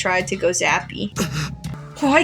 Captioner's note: Caine Gasps